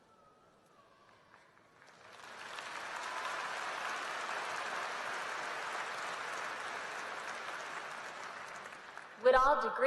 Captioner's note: applause